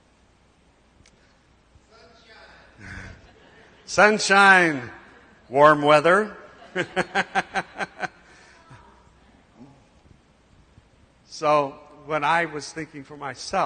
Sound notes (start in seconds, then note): 6.4 laughter